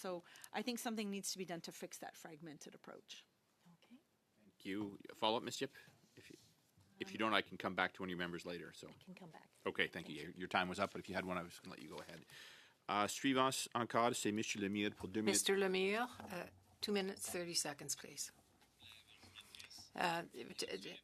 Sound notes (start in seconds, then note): 16.7 speaking French